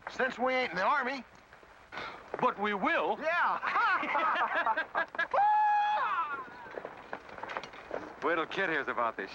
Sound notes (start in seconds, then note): 3.5 men laugh; 5.3 Windy whoops excitedly